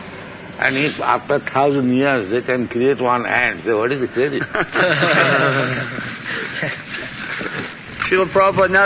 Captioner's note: laughter